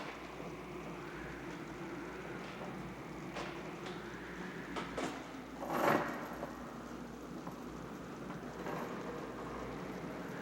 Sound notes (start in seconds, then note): 3.8 creaking objects nearby